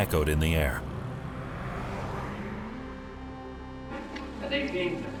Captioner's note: car engine whirring